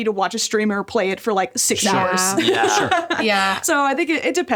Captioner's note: laughs